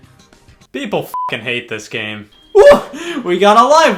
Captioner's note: beep